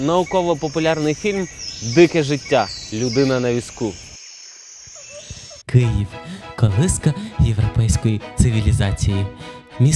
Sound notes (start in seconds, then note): 4.3 singing of birds